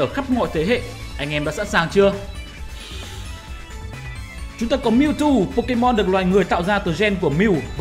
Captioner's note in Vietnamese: hít